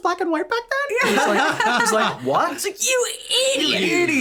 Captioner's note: laughs